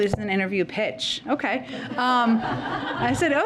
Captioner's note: laughter